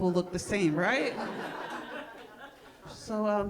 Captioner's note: audience laughing